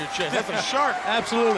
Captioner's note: Tony laughs